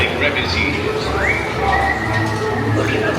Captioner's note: pirate whistles